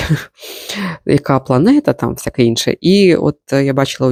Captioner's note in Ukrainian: сопіння